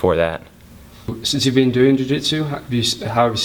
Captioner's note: voiceover